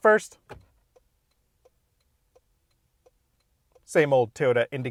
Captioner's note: car indicator ticks